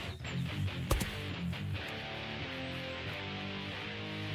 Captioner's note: body thud